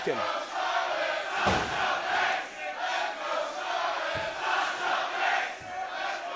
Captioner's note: crowd chatter